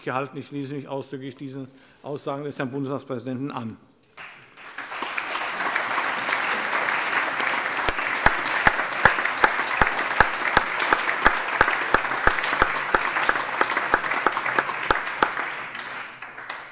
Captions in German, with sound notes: Ich schließe mich ausdrücklich diesen Aussagen des Herrn Bundestagspräsidenten an. (Lebhafter allgemeiner Beifall)